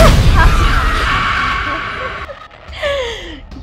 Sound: laughing

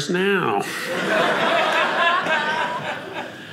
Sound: audience laughing

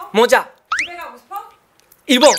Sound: hesitates

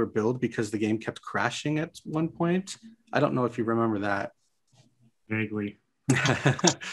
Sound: laughs

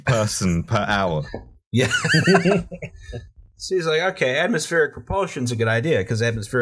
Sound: laughter

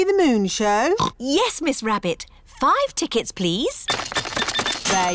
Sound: oinks

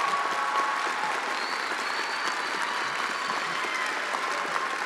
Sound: attendees applauding

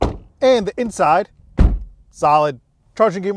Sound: car door thuds

